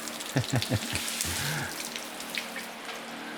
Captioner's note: laughing